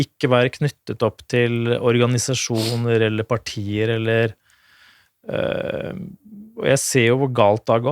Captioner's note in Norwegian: snøfter